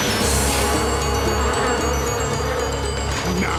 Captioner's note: buzzing